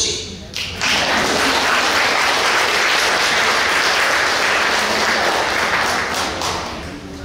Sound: clapping

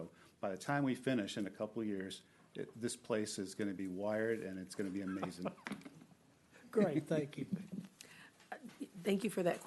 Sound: laughing

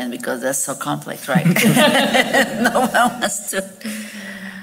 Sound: all laughing

